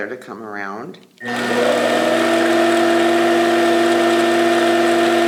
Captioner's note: machine whirring